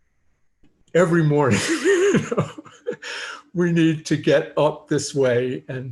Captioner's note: laughter